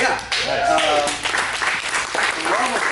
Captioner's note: applause